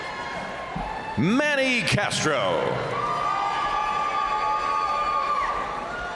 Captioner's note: crowd cheering